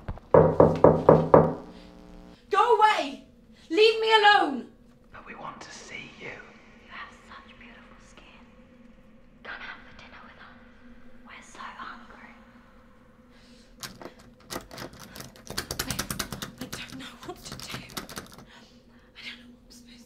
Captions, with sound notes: [LOUD KNOCKS] Go away! Leave me alone! [WHISPERING] -But we want to see you... -You have such beautiful skin... -Come out for dinner with us - we're so hungry... [DOOR HANDLE RATTLING] I don't know what to do. I don't know what I'm supposed to do.